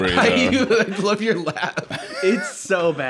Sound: laughing

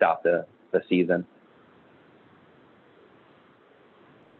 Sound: silence

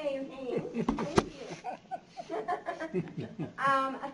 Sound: laughter

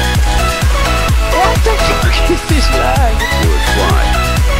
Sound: laughing

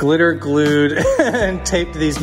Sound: laughing

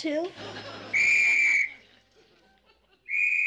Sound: whistle blowing

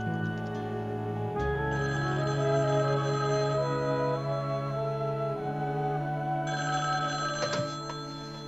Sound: phone ringing

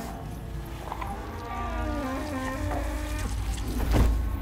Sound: groans; sloppy thud

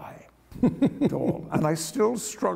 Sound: laughter

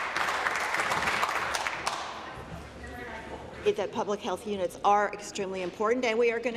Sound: applause

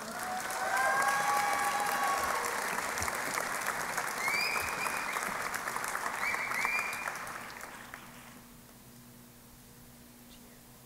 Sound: applause and Cheering

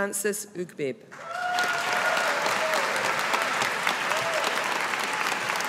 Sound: audience applauding

